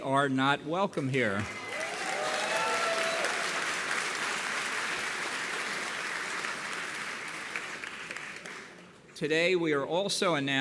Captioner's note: applause